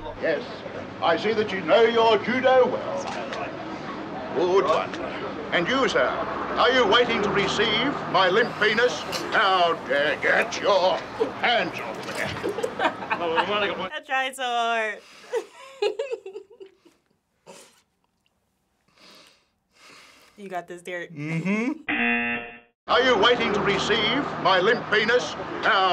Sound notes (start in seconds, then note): 12.5 laughing; 15.3 giggling; 19.6 centering breath; 21.9 buzzer